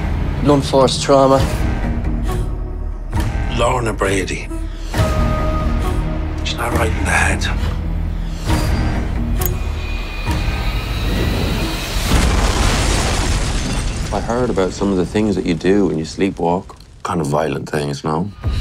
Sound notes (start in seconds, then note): 7.9 intense music playing; 9.3 flicks lighter; 11.9 explosion